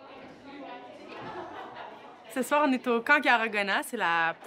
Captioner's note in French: brouhaha de voix